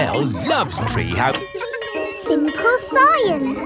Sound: bell tolling; children laughing

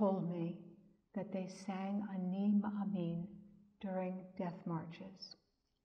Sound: speaks in Hebrew

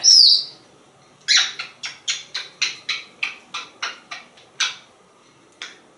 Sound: kisses

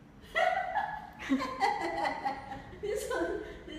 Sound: starts laughing

